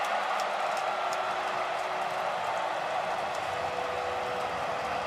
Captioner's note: cheering